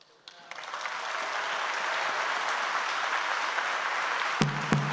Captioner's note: audience applauds